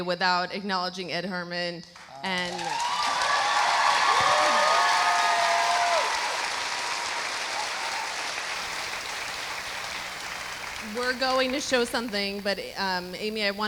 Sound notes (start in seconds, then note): 3.5 audience cheering